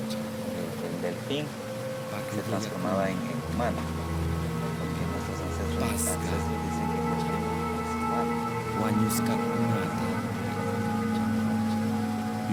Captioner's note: quechua dialect